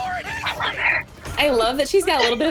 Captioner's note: whispers